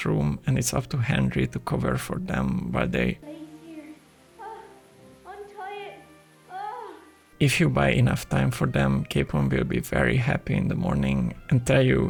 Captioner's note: love noises